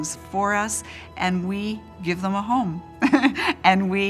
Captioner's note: laughs